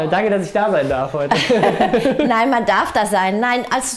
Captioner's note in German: Lachen